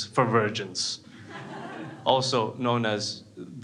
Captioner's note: crowd laughs